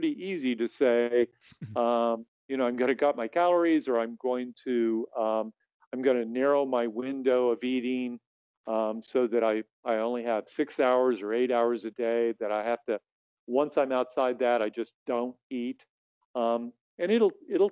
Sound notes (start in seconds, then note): 1.6 chuckles